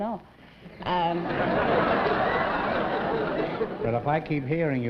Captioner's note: laughter